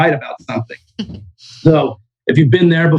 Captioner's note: laughs